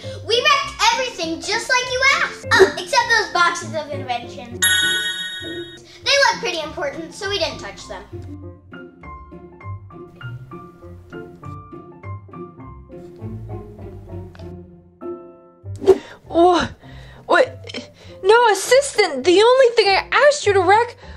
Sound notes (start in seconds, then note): 4.6 bright pinging sound; 8.6 bright piano music; 16.4 Catboy stuttering